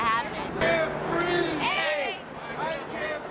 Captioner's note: crowd Voices